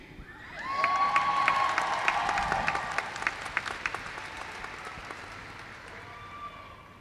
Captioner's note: applause